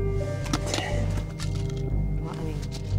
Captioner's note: pills rattling